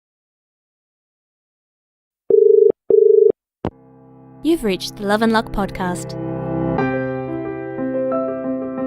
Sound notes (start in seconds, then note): 2.8 dial tone